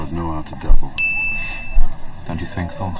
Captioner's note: ding